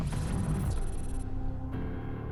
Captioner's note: electronics whirring